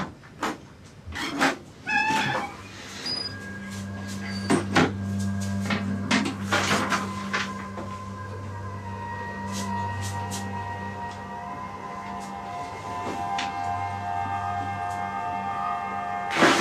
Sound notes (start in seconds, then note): 1.4 door creaks; 3.7 suspenseful music